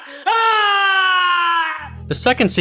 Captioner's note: screams